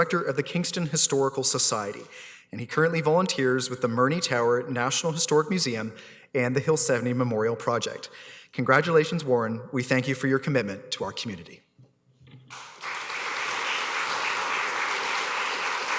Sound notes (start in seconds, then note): 12.5 applause